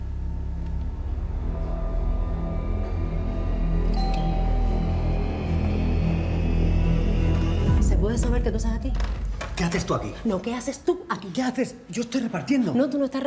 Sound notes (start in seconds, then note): 3.9 door bell